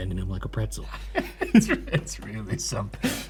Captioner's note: both laughing